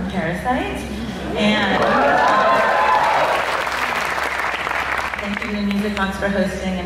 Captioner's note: applause